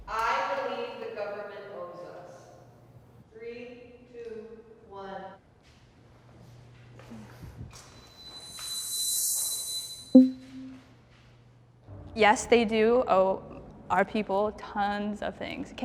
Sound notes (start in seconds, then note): 8.4 soft intense music; 10.1 text box pops